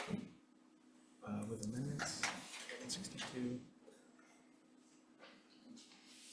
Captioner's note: speaking faintly off mic